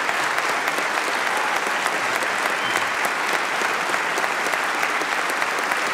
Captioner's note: applause